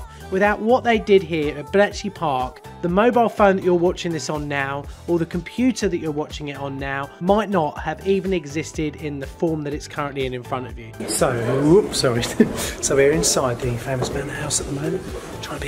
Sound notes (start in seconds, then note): 12.0 laughs